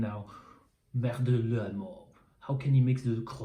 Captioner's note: speaks in foreign language